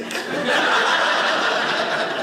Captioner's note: audience laughing